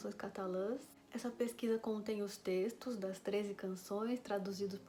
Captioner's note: in portuguese language